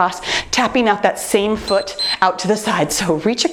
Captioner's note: timer beeps